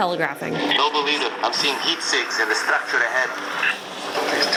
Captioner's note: gameplay sounds